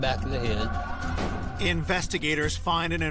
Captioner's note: gun firing